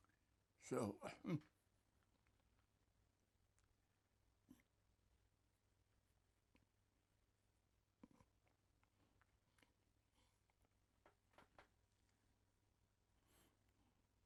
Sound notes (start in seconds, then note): 1.3 crying